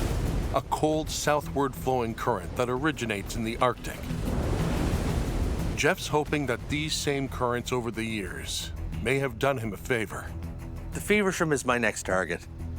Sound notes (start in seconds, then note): 4.2 wave crashes